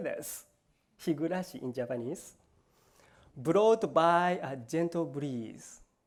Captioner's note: japanese